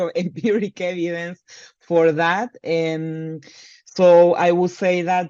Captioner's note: laughs